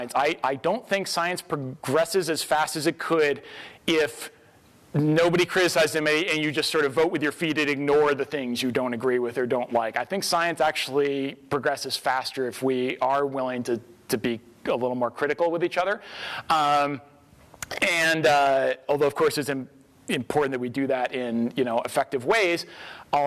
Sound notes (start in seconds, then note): none